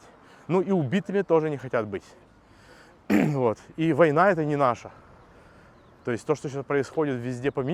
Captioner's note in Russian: откашливается